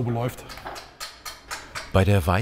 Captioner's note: hammering